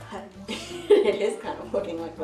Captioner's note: chuckles